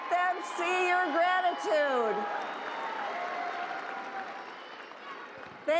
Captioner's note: cheering